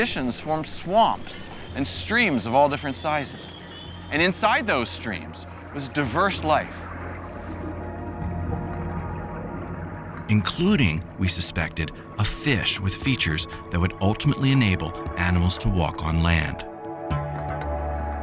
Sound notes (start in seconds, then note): 10.3 voiceover